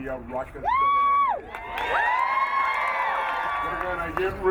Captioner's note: crowd cheering